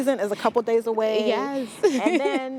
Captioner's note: laughs